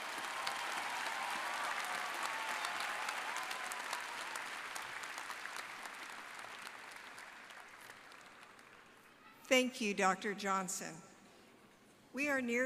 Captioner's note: applause